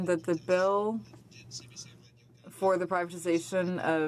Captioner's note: speaking in french